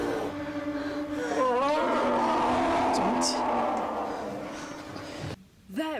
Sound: ungodly scream

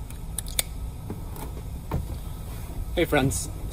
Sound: plug clicks

